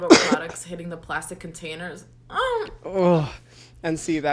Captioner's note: groans